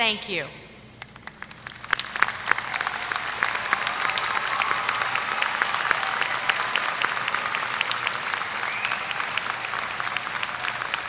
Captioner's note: applause